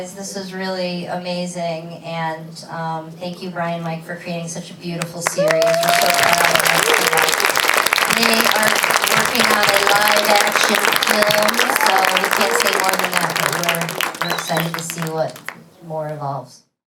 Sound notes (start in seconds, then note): 7.8 applause